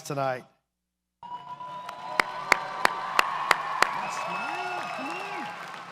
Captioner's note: audience cheers and applauds